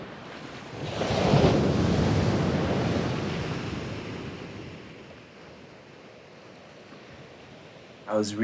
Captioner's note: waves surging then crashing